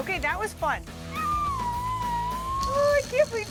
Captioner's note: squeals